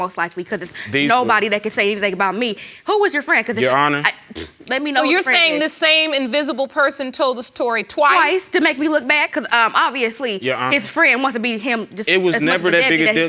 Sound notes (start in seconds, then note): 4.0 scoffs